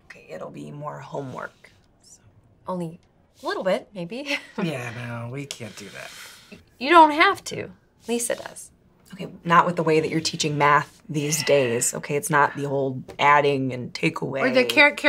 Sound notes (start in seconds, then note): 4.8 chuckling